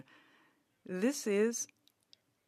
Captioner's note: speaking French